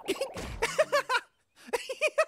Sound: giggling

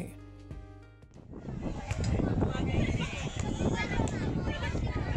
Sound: wind rustling; crowd chattering

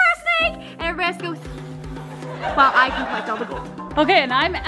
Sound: hissing

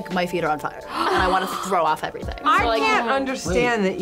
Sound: gasps

